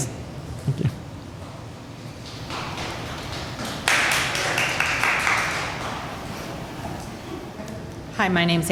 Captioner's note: applause